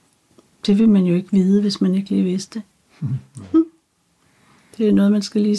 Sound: laughs

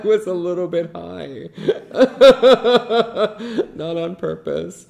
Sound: laughs

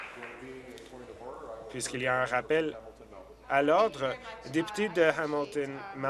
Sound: applause

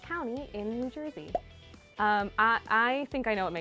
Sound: pop; pop

